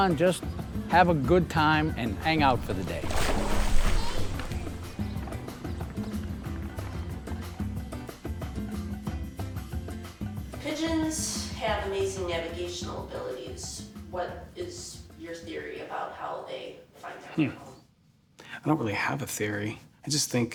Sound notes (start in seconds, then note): 1.9 water splashing; 2.0 upbeat music continues